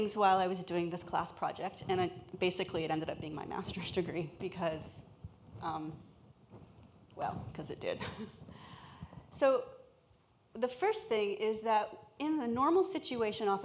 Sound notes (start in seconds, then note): 8.3 laughs